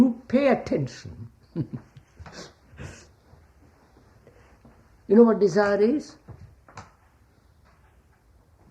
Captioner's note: laughs